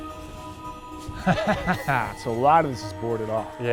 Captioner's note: laughs